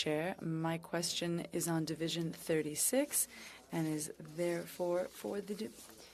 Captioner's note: speaking French